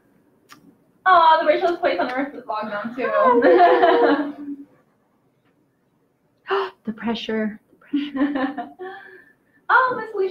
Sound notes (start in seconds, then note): 5.3 gasps; 7.9 giggles